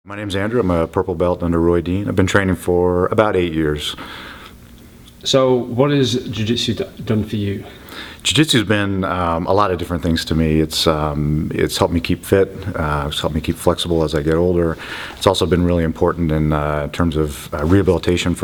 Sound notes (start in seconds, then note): 5.5 voiceover